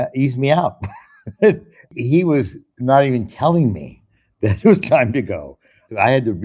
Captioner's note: laughs